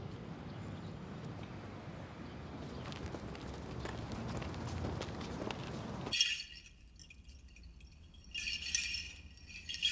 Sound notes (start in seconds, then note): 6.0 clanking